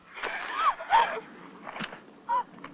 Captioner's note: gasping